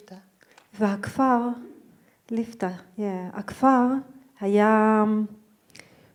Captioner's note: speaking in foreign language